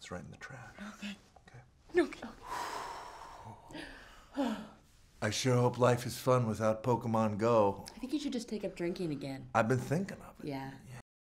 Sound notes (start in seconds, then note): 2.4 sighs